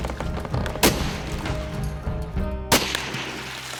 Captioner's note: gun firing